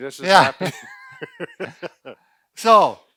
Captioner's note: laughing